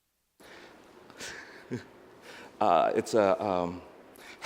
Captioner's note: laughs